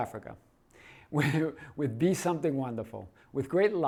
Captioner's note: chuckles